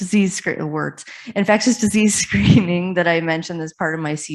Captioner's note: chuckles